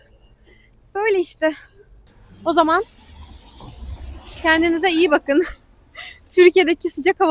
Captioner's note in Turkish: kahkaha